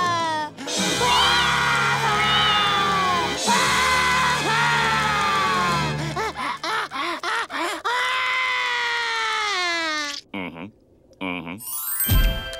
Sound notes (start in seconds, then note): 2.0 crying; 3.1 screaming; 5.4 sobbing; 7.8 screaming